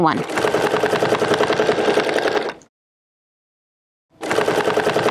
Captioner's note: machine whirring; machine whirring